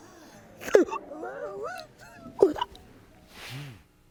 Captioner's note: sobbing